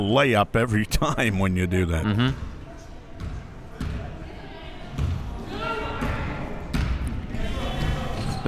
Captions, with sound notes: lay-up every time, when you do that. (Crowd murmuring)